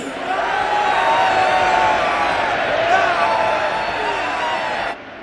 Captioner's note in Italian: grida di eccitazione